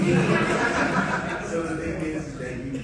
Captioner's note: audience laughing